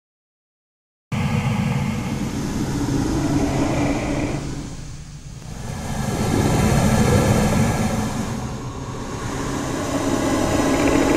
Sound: sound of monster growling

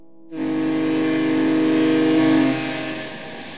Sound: sound of a ship's fog horn

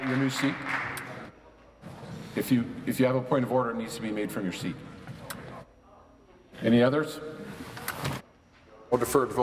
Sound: applause

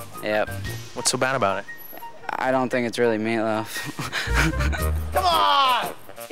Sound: laughing

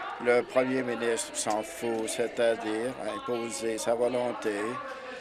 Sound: applause

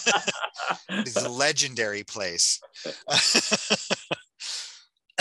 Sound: laughing

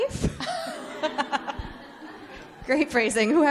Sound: all laughing

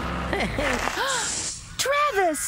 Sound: gasps

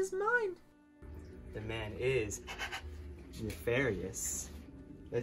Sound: weird breathing

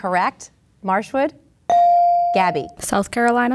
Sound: ding

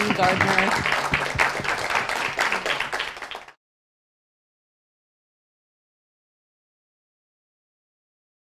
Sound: clapping

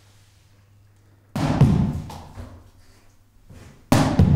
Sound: ball hits wall

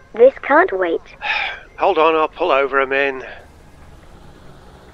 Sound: sighs

